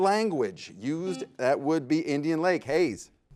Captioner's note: buzzer beeps